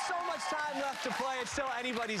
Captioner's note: cheers and applause